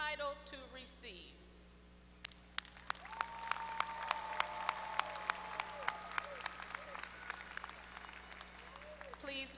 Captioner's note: applause